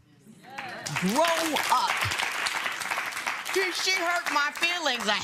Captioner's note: applause